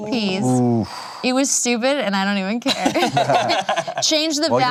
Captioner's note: laughs